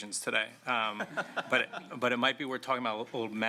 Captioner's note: laughter